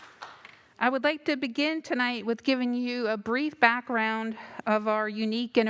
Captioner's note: applause